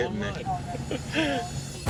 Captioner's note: laughs